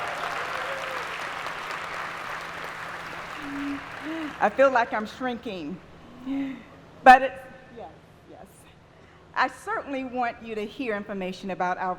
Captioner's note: applause